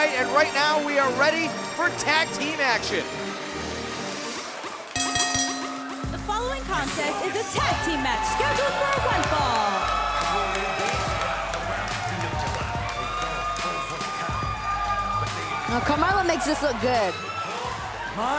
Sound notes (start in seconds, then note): 4.9 bell ringing